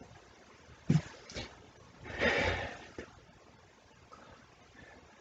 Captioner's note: sighs